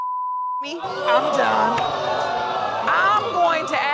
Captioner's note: audience exclaiming